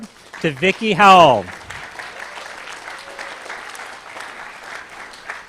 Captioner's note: applause